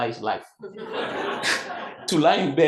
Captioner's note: audience laughs